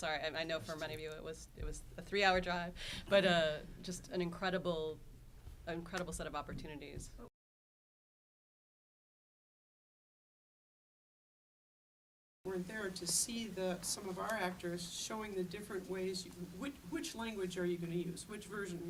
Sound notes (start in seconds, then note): none